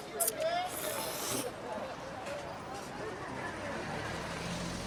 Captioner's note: slurping noodles